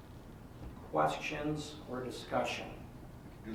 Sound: none

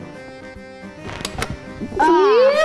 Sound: button clicks

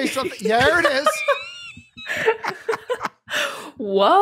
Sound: laughter

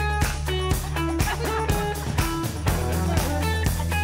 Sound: laughing; funky music

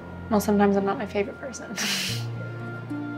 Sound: laughs

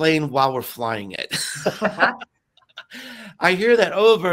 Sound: laugh

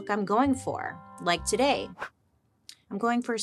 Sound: hair swishes

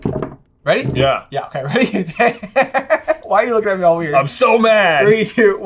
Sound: laughter

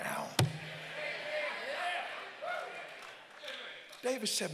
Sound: congregants call out and cheer

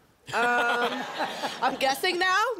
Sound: laughter

